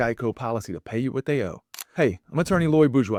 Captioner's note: camera clicking